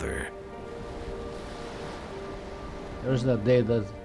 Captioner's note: gentle music; waves gushing